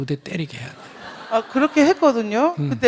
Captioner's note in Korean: 청중 웃음